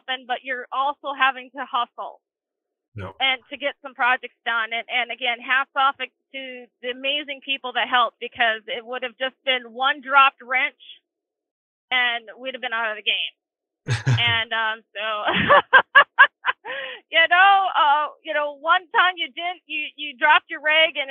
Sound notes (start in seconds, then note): 13.8 chuckling; 15.2 laughing